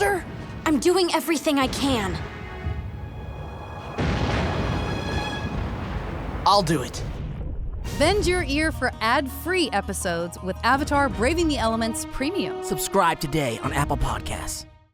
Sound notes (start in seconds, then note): 2.6 exploding